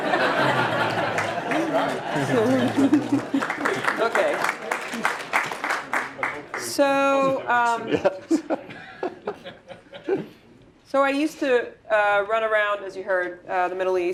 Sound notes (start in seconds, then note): 0.0 laugh; 4.6 applause; 7.4 laugh